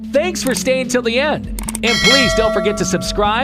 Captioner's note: bell chimes